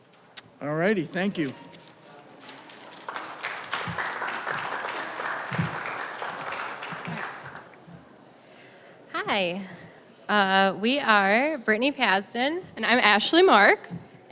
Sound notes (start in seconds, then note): 2.4 applause